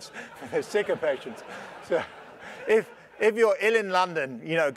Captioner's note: laugh